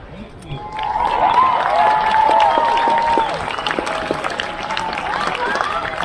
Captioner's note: crowd cheers